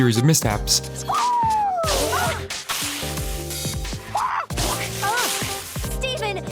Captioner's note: squawking